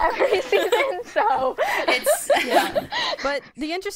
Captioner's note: laughter